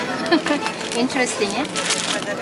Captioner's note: laughs